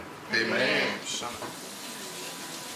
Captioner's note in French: les autres, à l'unisson; l'eau coule dans l'évier